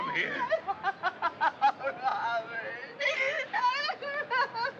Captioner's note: sobbing